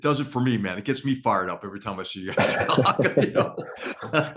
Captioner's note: laugh